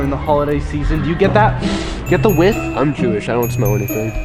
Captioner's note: sniffs